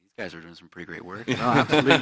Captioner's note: laughs